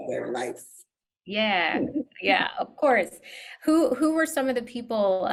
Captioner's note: laughs